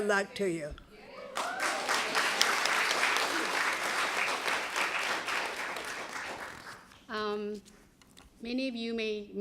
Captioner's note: applause